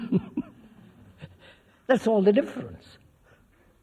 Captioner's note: laughs